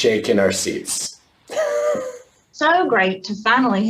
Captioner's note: laughs